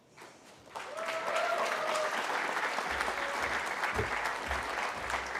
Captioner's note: cheering